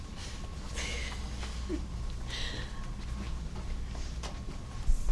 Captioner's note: woman laughing